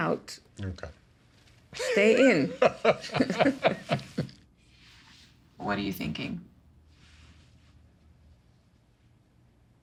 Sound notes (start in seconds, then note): 1.8 laughter